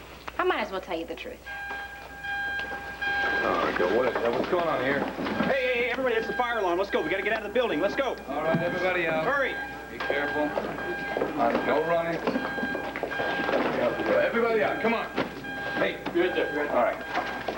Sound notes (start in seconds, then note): 3.5 fire alarm sounds